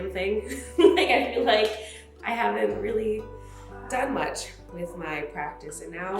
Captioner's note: laughs